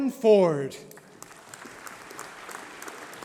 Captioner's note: applause